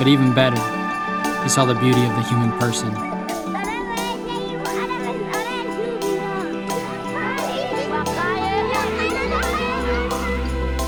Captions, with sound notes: But even better, he saw the beauty of the human person. (speaking in foreign language)